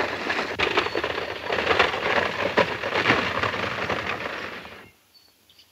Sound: horse hooves clomping

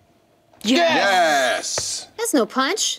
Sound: cheering

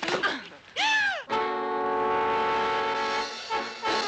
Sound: Babs gasping

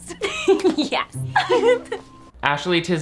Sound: Sharpay giggles

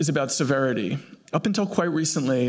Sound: none

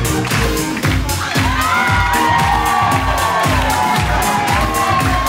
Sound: audience cheers

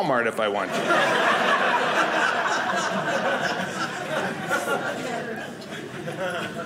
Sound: audience laughing

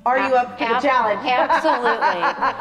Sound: laughs

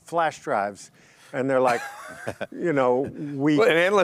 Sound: chuckles

